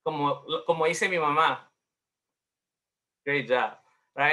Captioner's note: speaking in Spanish